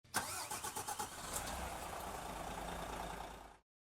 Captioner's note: engine starts